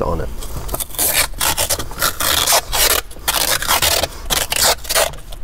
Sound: masking tape crackles

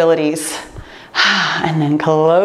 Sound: sighs

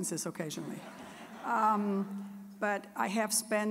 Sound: audience laughing

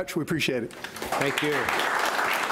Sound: audience applauds

